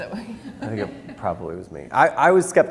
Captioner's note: laughs